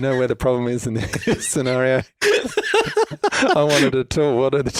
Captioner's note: laughs